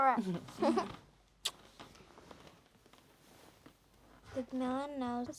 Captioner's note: both laughing